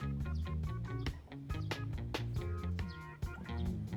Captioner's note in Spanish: El pájaro cantando